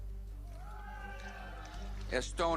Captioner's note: scattered cheers